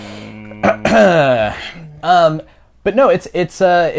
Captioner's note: clears throat